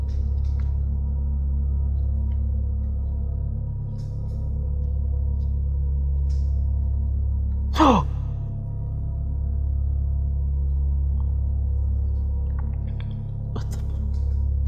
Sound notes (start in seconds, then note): 7.7 man gasps